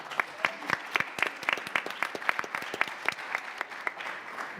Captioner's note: audience applauds